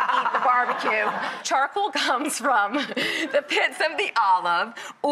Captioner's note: laughs